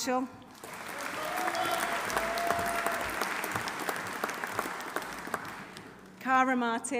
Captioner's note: audience applauding; audience cheering